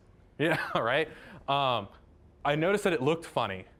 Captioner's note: laughing